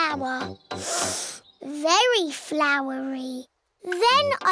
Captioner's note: sniffs